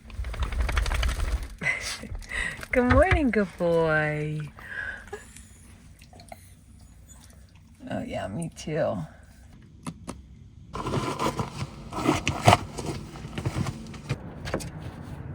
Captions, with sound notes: (dog shakes) Good morning, good boy. (yawning) Oh yeah, me too.